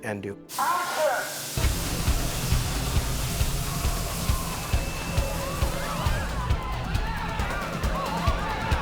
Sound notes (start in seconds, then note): 5.0 screaming